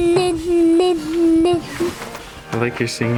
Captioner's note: babbling